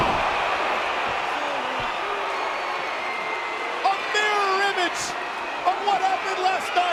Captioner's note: applause